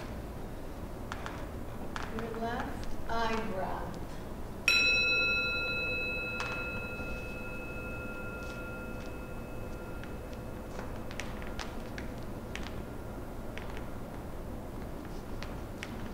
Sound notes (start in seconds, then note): 4.6 gong